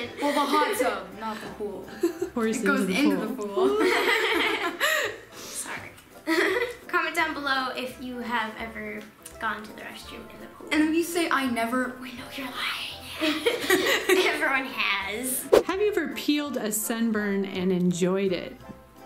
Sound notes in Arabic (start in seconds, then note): 3.6 يضحك; 13.1 يضحك